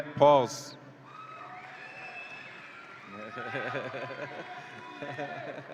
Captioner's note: audience applauds and cheers